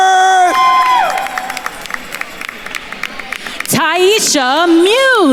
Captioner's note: attendees cheering and applauding